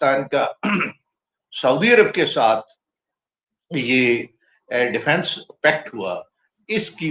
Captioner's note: clears throat